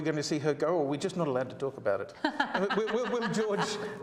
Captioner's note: laughs